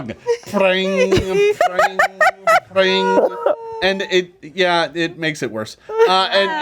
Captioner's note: imitates strings being plucked